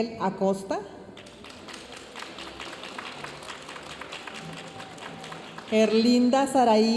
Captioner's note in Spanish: aplausos de la audiencia